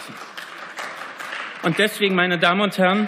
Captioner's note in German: Beifall